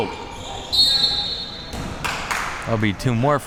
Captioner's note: whistle blowing